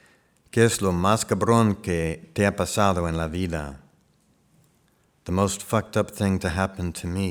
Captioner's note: speaking spanish